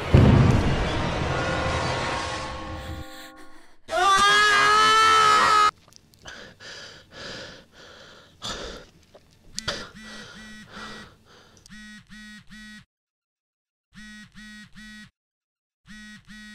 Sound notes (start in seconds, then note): 6.2 breathing heavily; 9.4 phone vibrates continuously